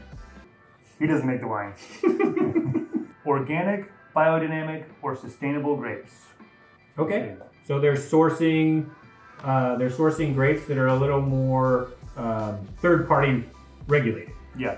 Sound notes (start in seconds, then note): 1.8 giggles